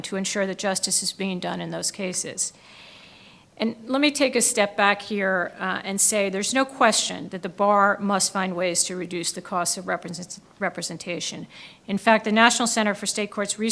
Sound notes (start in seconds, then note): none